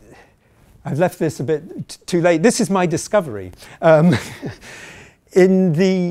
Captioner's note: chuckling